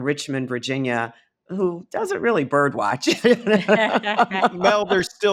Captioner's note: laughing